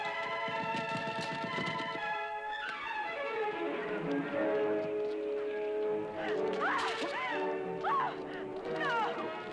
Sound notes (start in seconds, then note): 7.0 screaming